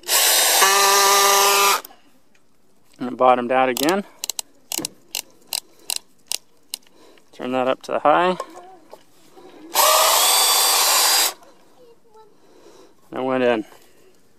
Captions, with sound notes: (loud whirling) And it bottomed out again. Turn that up to high. (fast whirling) It went in.